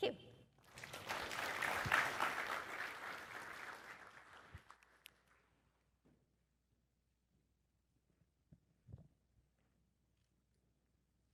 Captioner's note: applause